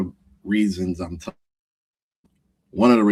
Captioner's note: audio cutting out